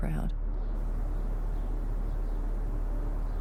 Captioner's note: bird calls